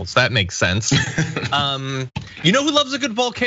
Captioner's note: laugh